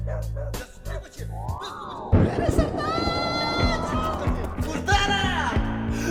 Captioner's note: barking followed by distant screaming; multiple voices shrieking